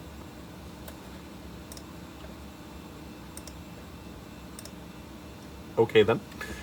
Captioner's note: confused mouse clicks